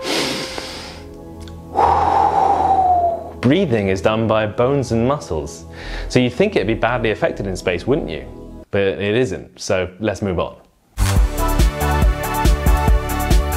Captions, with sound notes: (DEEP BREATH IN) Breathing is done by bones and muscles so you think it'd be badly affected in space wouldn't you? But it isn't... so let's move on.